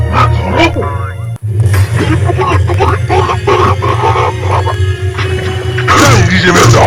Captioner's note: growl